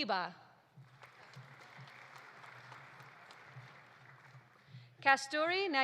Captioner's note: audience applauding